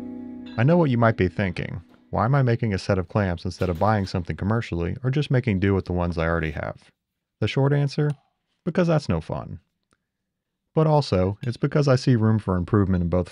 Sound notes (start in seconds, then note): none